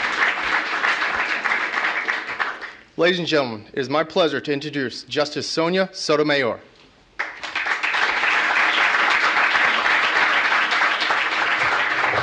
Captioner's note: applause